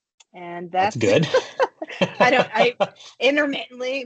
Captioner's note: chuckling